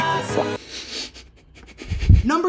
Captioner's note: shaky breathing